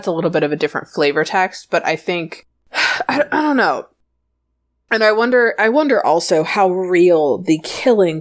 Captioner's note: sighs